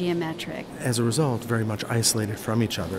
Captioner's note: voiceover